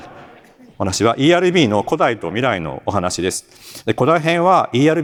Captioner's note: laughter